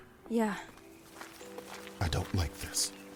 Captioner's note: in a hushed tone